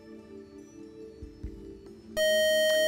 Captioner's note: time out buzzer